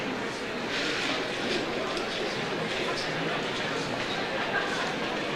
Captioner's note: overlapping chatter